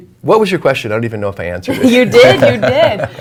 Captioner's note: laughs